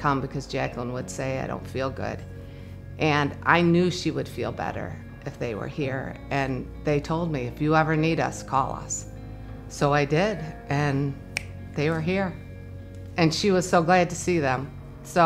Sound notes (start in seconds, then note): 11.3 snaps